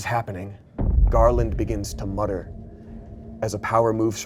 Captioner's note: thump resounds